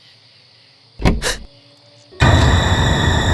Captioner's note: gasps